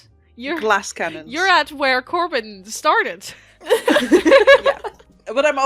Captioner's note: laughter